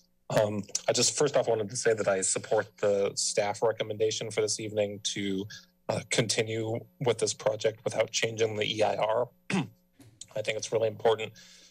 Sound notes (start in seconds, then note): 9.5 clears throat